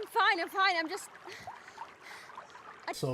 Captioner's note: breathing heavy